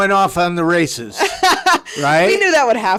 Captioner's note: laughing